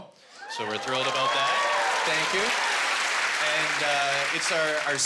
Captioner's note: cheering and applause